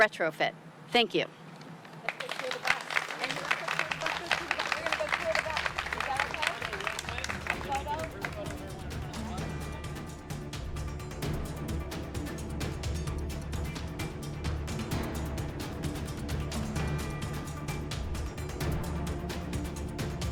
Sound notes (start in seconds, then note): 4.5 applause